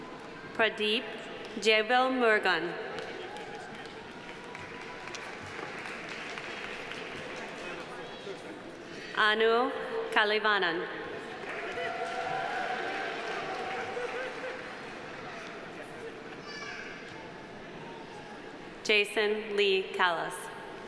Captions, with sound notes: Pradeep Jayavelmurugan. (audience applauding) Anu Kalaivanan. (audience applauding) Jason Lee Kallaus.